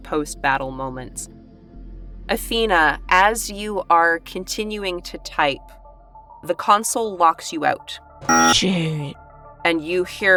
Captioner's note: buzzer sounds